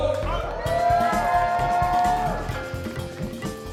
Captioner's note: attendees cheering